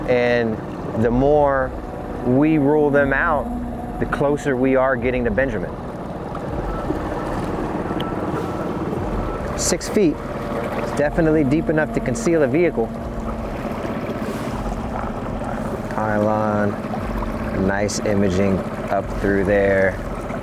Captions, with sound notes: And the more we rule them out, the closer we are getting to Benjamin. (engine droning) (ominous music) Six feet, it's definitely deep enough to conceal a vehicle. (engine droning) (ominous music continues) Pylon, pylon, pylon, nice imaging up through there.